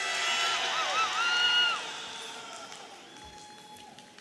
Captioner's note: audience cheering